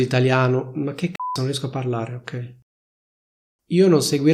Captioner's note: beep